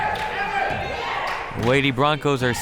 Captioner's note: crowd members shouting